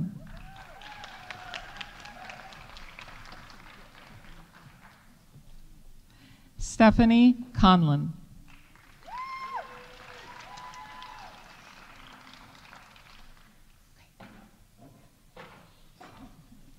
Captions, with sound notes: -(audience applauding) -(audience cheering) Stephanie Conlon. -(audience applauding) -(audience cheering)